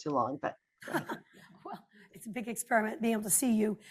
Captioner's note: laughs